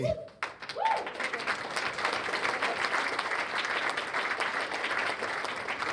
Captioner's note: cheers and applause